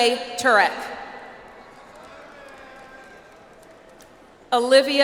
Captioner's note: audience applauds